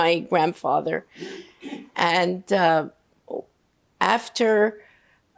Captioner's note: coughing